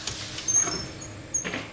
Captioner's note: squeaking